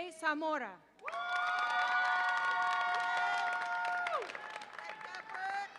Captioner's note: audience applauds and cheers